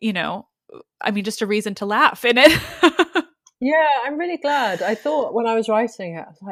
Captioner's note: laughs